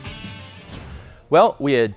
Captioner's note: whoosh